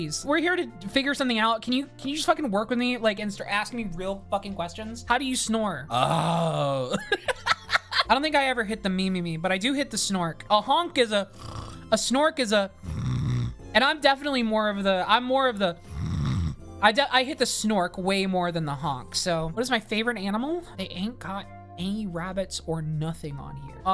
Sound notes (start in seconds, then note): 6.6 laughs; 12.8 snores; 12.8 snores differently; 16.3 snorks